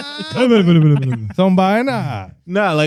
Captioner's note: speaking Spanish